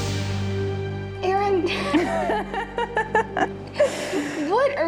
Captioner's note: both laughing